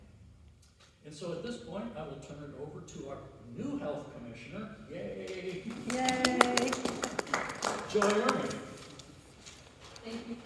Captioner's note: clapping